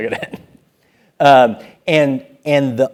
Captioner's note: laugh